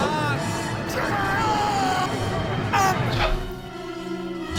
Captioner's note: screaming